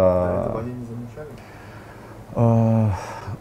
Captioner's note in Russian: Голос за кадром